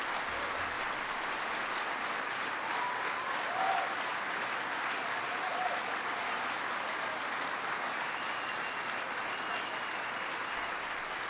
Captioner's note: applause